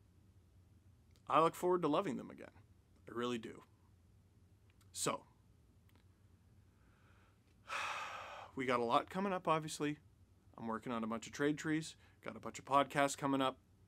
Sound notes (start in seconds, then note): 6.6 deep breath